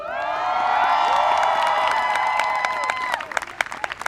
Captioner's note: people cheering